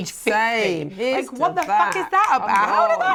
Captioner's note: finger snapping